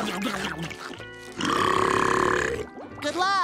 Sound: burping

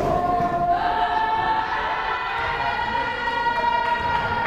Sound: crowd cheering

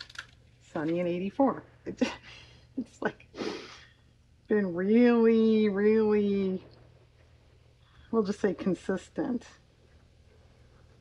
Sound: laughs

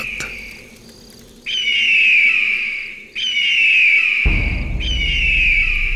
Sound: vultures shrieking

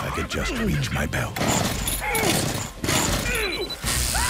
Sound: all grunting; motor chugging; beeping, zapping, screaming

